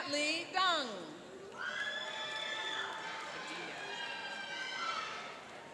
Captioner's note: cheering and applauding